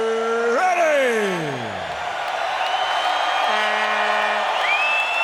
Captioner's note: crowd cheering